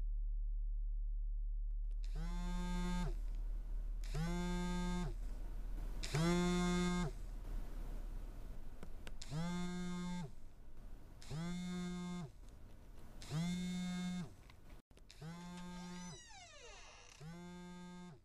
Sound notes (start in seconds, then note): 4.0 phone vibrates